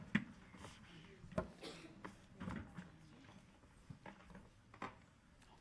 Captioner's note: people chattering faintly